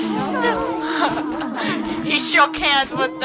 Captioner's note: laughing